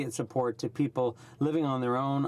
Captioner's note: speaking French